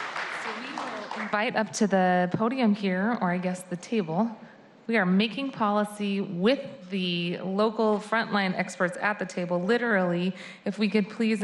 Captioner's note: applause